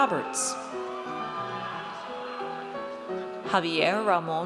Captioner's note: audience cheers